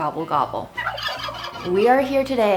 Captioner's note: turkeys gobbling; upbeat music